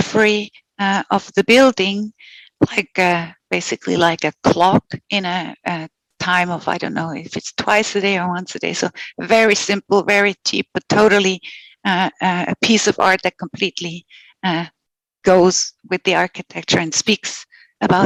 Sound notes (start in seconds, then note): 11.8 non-english speech